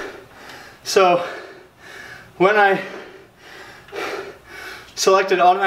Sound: breathing heavily

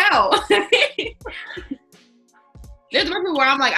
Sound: all laughing

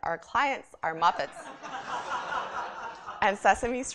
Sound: laughter

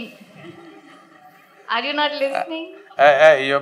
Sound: laughter

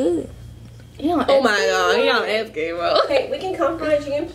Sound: chuckles

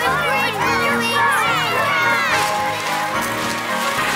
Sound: audience cheers

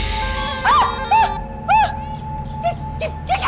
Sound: screams

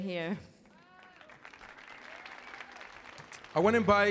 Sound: audience applauding

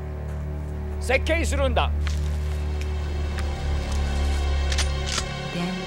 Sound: speaking japanese

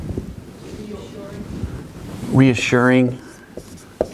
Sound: marker scribbling on board

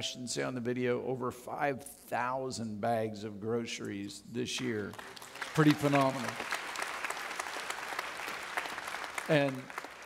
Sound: audience clapping

